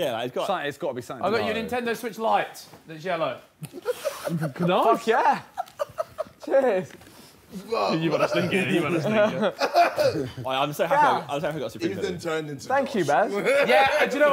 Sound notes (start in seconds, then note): 3.5 group chattering